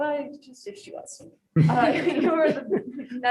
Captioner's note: group chuckles